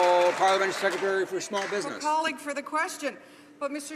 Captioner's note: some Applause